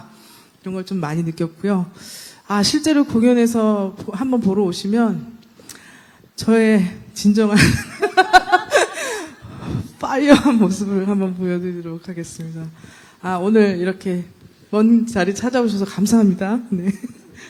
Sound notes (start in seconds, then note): 7.6 laughter